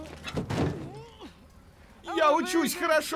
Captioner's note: whimpers; grunts